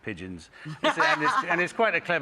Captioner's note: laughing